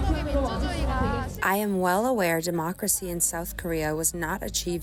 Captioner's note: through translator